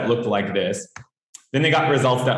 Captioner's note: keyboard clanks